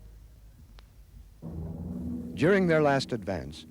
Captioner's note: propellor buzzes